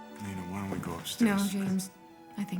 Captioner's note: none